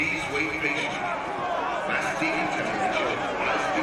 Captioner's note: man over speakers